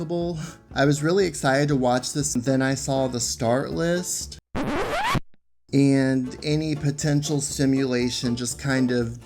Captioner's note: record scratch